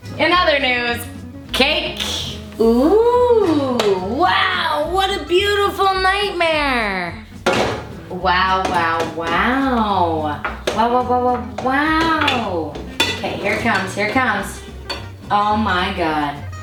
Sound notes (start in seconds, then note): 7.4 clanking